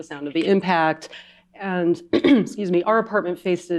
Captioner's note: clears throat